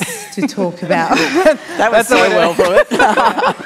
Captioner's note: laughter